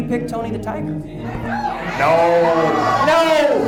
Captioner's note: audience cheers